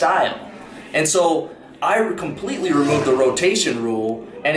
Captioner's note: car engine revving